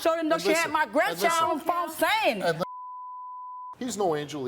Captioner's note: beep